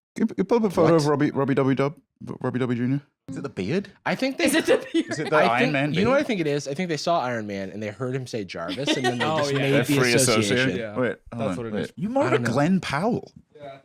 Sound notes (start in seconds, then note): 4.5 laughing